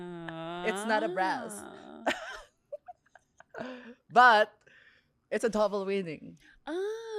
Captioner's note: laughs